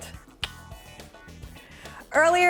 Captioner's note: clicks tongue